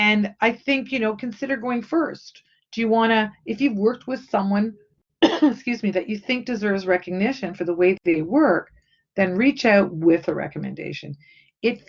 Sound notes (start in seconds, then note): 5.2 coughing